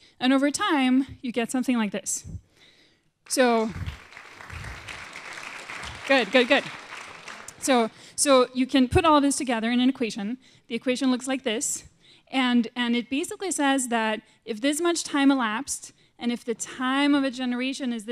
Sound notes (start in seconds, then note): 3.3 applause